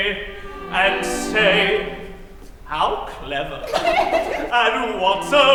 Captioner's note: girls giggle